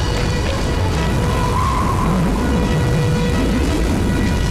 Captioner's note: Wind gusting